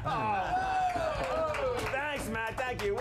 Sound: scattered laughs

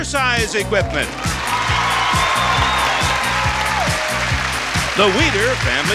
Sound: upbeat music; audience cheers

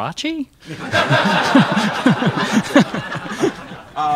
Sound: crowd laughs

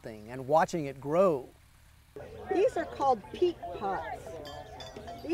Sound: teacher Speaking

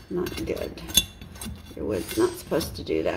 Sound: scraping

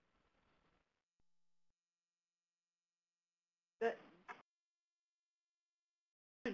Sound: silence

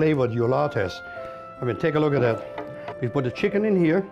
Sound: platter thunks

